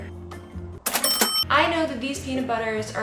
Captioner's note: cash register rings